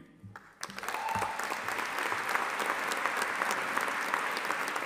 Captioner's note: audience applauding